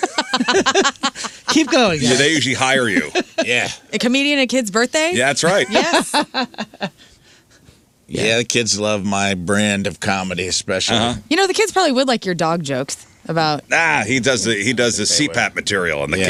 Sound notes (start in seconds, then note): 6.8 laughter